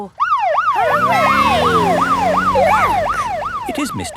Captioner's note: siren